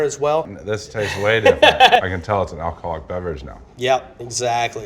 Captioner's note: laughs